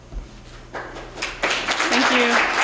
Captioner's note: applause